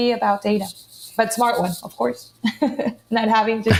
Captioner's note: laughs